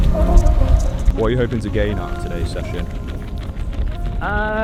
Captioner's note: voiceover